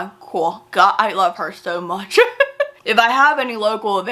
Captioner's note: laughs